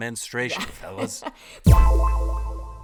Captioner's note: chuckling